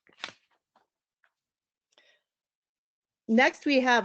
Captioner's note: paper rustles